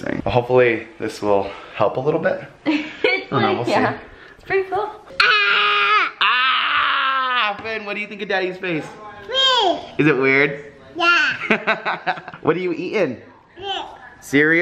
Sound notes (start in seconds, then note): 3.5 laughs; 5.4 hollering; 9.3 babbles; 11.3 laughs